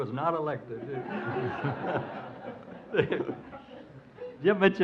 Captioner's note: audience laughs